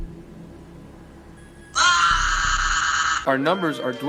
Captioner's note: Green Crewmate screams as he burns in hell